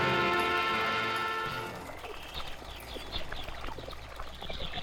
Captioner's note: wildlife sounds